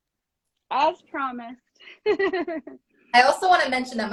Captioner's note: laughs